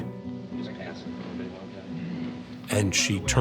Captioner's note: people talking softly